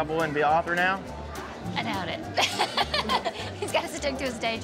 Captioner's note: laughter